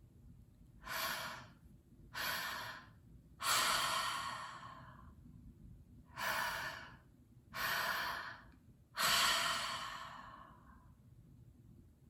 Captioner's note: breathing